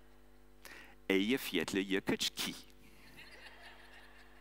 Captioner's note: audience laughing